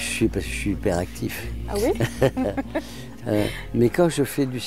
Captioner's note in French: rires